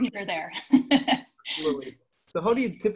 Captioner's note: laughs